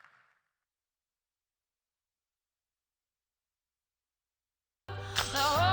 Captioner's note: applause